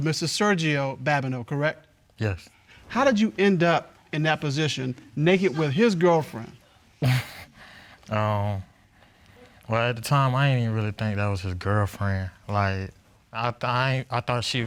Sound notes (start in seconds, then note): 7.0 scoffs